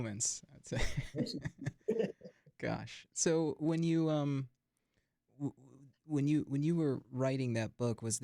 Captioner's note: chuckles